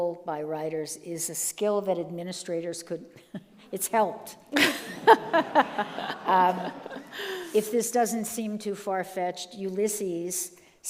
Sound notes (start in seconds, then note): 4.5 all laugh